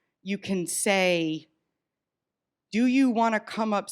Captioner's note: none